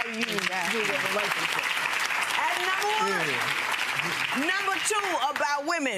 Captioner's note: audience applause